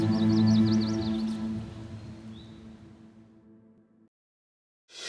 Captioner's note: birds chirping